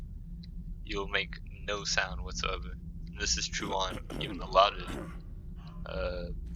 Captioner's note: guard coughs